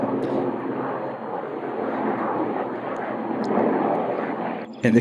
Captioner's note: airplane engine roaring